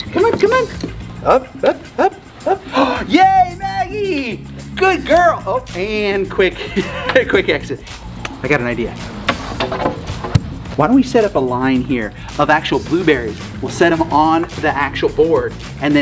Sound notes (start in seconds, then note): 2.0 gasps; 6.4 laughing